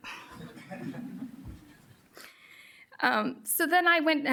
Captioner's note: audience laughs